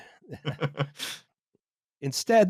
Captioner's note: laughter